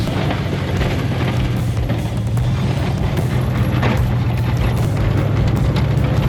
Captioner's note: engine rumbling; upbeat rock music